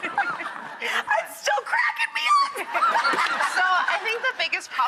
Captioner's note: laughing; laughs